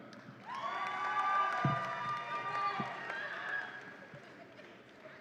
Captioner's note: audience applauds and cheers